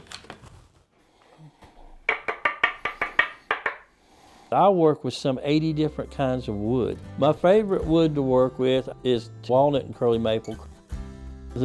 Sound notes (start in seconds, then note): 2.0 knocking